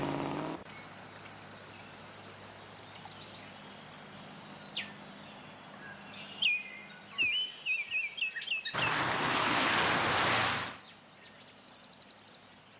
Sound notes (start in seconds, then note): 0.0 birds chirping; 8.8 car engine rumbling